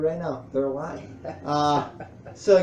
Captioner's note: laughs